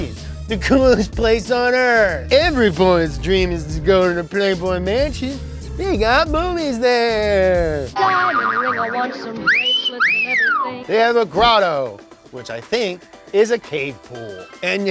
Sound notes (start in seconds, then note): 9.4 whistling